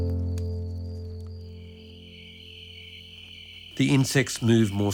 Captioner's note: crickets chirping